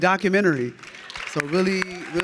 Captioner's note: audience clapping